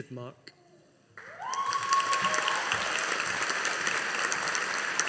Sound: audience applauding

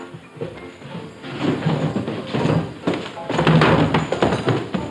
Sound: feet clattering

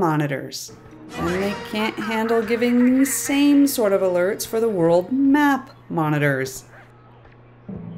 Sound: female Voice on Loudspeaker

